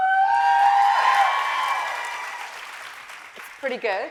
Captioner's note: audience cheering